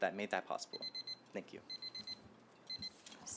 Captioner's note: timer beeping